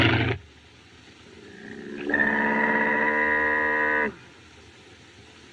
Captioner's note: groaning